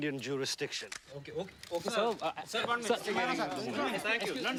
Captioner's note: overlapping chatter